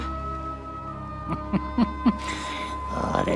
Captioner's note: chuckles